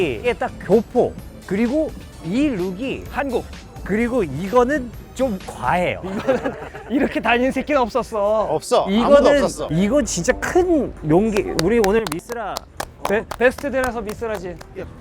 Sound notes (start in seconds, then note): 11.3 clap clap